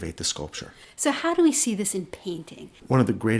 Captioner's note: voiceover